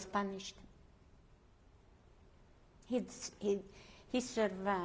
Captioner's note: pauses for 3 seconds